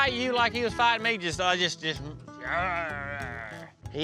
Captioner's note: grunting